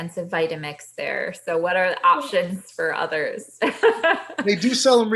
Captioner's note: laughs